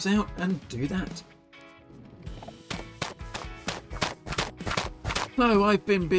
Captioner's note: chopping noises